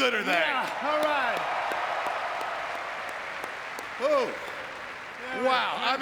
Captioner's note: audience clapping